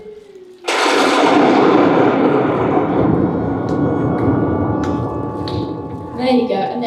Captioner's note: thunder Crashes